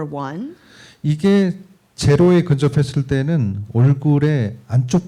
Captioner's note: speaking korean